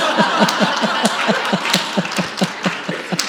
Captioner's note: laughs